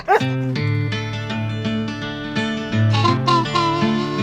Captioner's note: Vilk barks; upbeat music